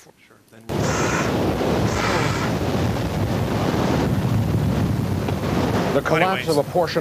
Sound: wind

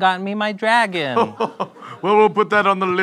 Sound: belly laughter

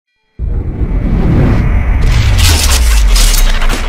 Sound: air whooshing

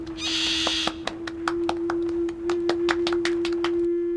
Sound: all clapping

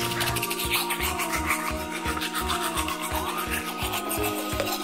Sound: brushing teeth

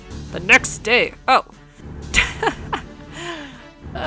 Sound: chuckling

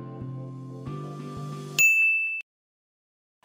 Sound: ding sound

